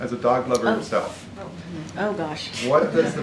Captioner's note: laughter